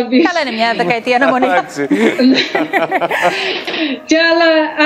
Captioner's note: laughs